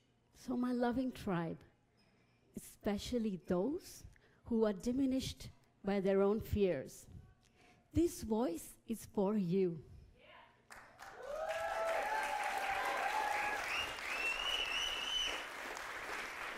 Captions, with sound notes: So my loving tribe, especially those who are diminished by their own fears, this voice is for you. (audience applauding)